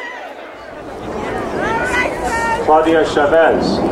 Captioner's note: people chattering